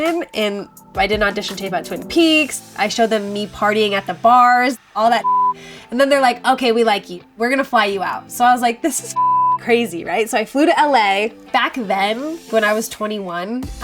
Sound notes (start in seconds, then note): 5.2 beep; 9.1 beep